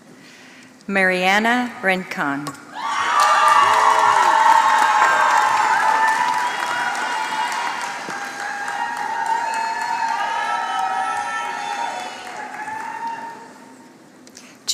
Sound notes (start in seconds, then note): 6.9 applause